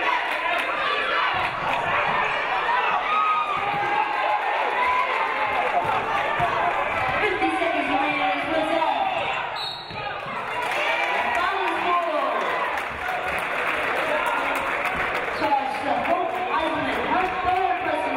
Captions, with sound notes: 30 seconds remaining. (referee blows whistle) (audience cheering) Foul scored. Charged to Hope Heiselman.